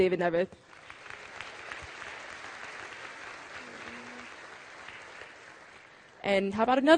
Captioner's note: applause